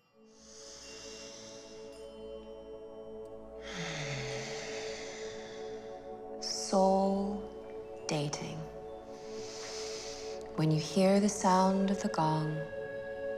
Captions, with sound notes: [Inhaling] [Exhaling] Soul. Dating. When you hear the sound of the gong,